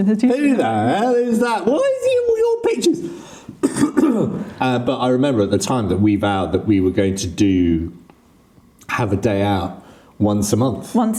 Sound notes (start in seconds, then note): 3.5 coughing